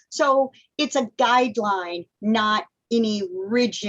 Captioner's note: none